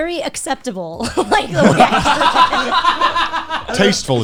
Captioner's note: guys laughing